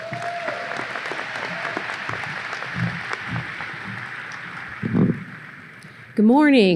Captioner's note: audience applause